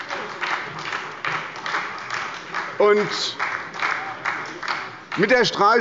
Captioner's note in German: Beifall bei der SPD